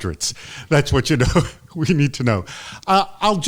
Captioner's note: chuckles